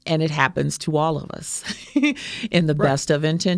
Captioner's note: laughing